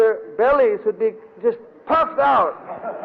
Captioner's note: devotees laugh